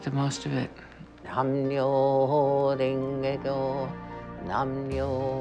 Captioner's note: chanting in foreign language